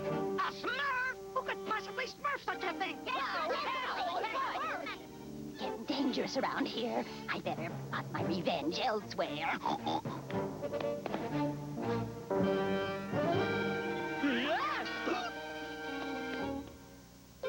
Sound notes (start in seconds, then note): 4.8 smurfs shouting; 9.5 snorts